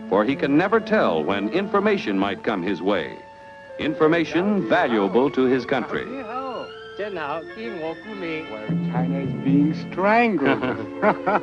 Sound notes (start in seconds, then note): 6.8 speaks foreign language; 10.4 chuckles